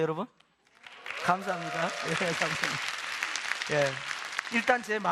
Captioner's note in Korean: 박수